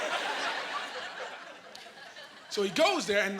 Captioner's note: laughing